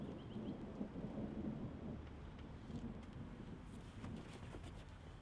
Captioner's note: storm rumbles in the distance